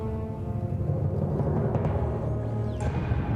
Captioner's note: aircraft noise